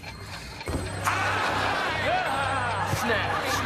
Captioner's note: laughs